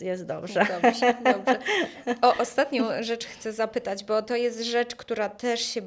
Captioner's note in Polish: śmiech